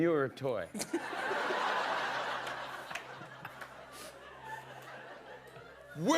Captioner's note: laughter